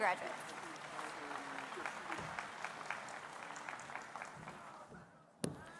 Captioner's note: applause